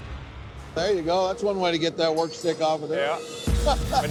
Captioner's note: laughs